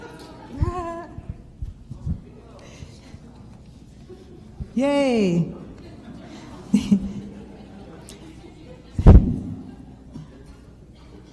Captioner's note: chuckles